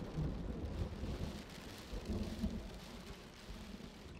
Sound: rain patters against - the window

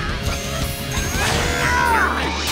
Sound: grunting

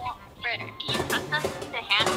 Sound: loud clanking

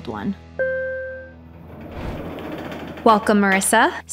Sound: elevator dinging, doors opening

